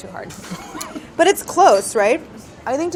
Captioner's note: laughs